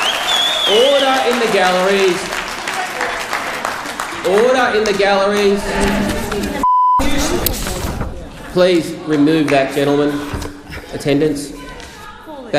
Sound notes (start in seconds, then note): 0.0 cheering and whistling; 0.0 clapping; 6.6 beeping